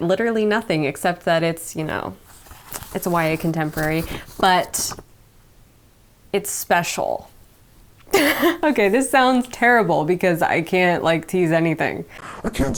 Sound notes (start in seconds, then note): 8.1 laughing